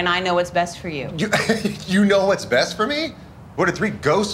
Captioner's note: laughs